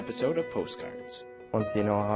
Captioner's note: voiceover